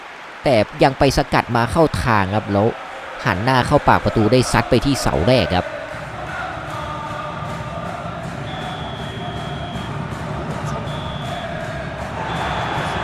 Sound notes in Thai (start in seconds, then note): 6.8 ปรบมือ